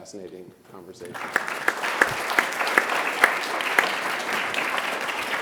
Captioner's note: audience applauding